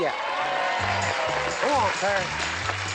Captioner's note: applause, theme music